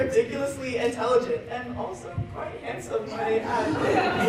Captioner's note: cry